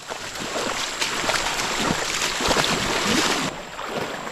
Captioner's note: water sloshing